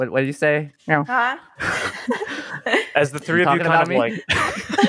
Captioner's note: laugh; laughter